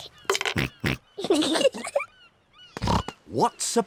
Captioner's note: oinks; both giggle